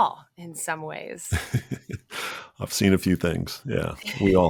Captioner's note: laughs